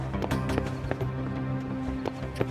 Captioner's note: footsteps